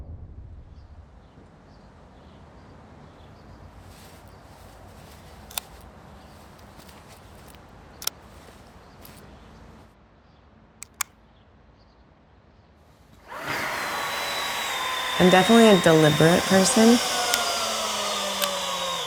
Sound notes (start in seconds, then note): 2.0 birds chirping